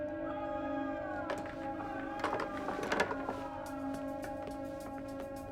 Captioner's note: distant screaming